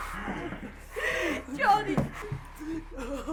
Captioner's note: sobs